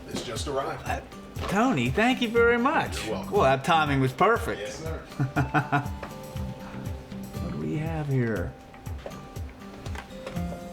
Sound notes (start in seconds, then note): 5.1 laughs